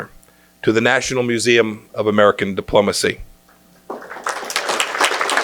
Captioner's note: applause